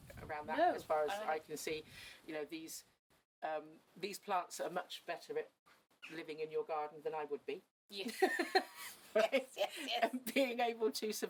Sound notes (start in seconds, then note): 8.3 laughs